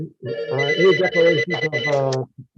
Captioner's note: phone rings